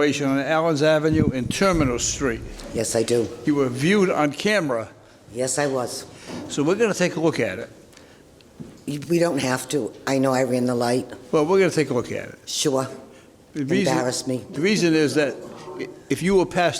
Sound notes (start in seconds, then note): none